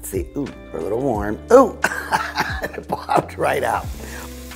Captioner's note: laughing